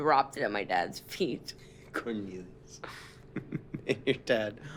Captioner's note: chuckles